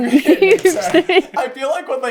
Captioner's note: laughing